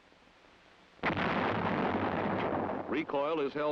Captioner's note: howitzer booms